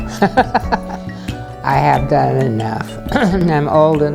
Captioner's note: laughter